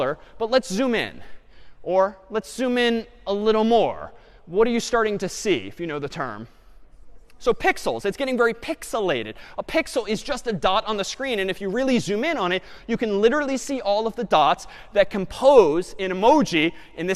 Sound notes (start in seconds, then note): none